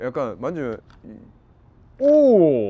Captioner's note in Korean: 찰싹